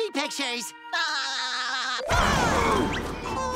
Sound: laughing

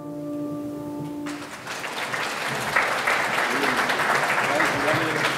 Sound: audience clapping

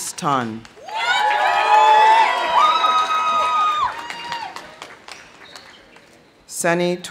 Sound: audience cheering; audience applauding

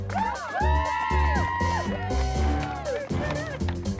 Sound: cheering

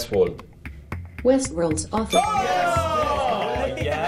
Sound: group cheers

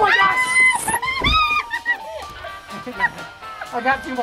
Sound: grandma screaming

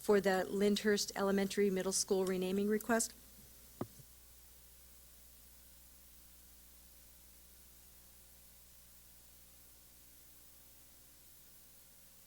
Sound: silence

